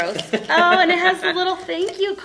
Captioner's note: laughter